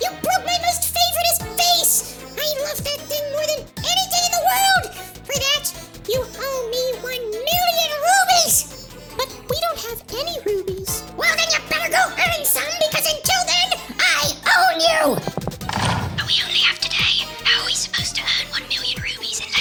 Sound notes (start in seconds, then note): 15.1 door locks